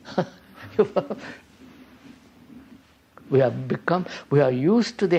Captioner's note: laughs